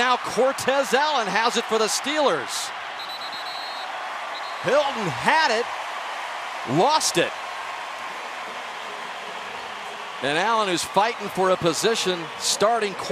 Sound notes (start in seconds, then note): 2.9 whistle; 3.2 cheering; 8.8 pa announcement